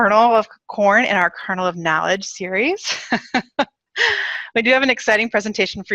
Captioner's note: laughs